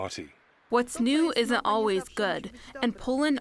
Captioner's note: through translator